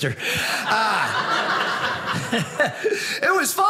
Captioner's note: audience laughing